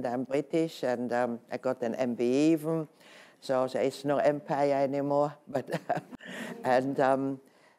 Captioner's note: laughs